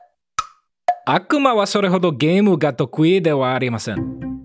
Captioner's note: in Broken Japanese